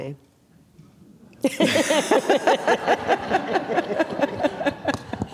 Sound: all laughing

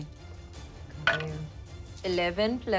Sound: rolling dice

